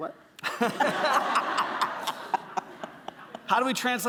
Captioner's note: laughter